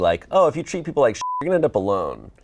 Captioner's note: beep